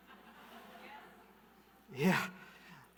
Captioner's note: audience laughing